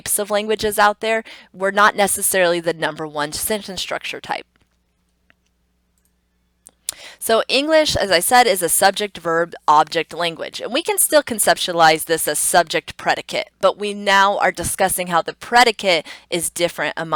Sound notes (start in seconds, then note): 4.7 computer mouse clicks; 6.6 tongue clicks